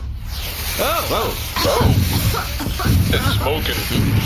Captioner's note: coughing; Bargie’s fire alarm blares